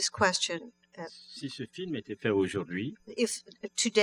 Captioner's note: speaking french